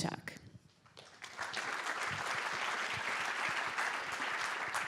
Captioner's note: applause